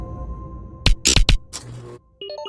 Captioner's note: buzz; beeping